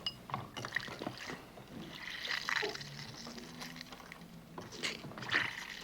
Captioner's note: liquid flowing